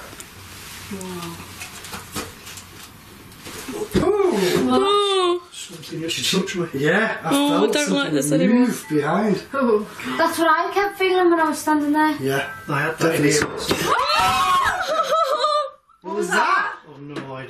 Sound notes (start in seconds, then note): 13.3 loud thumping; 13.8 screaming